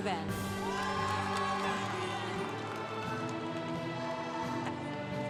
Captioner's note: congregation cheering